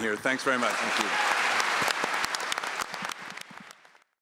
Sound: audience applauds

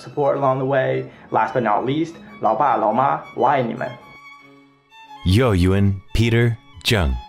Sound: non-english speech

